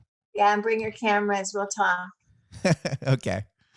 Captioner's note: laughs